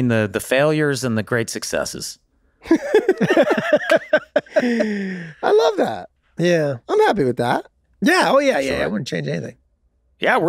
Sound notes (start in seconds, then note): 2.6 laugh